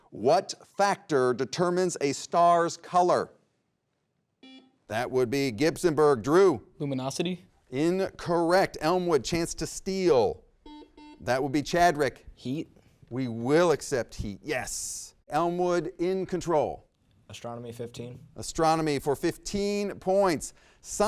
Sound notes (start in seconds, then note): 4.4 buzzer rings; 10.6 buzzer rings